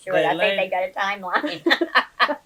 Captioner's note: laughs